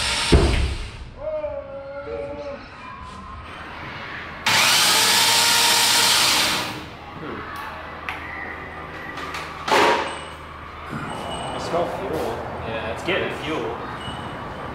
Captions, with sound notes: (loud bang) (motor revving) - I smell fuel. - Yeah, it's good. - It's getting fuel.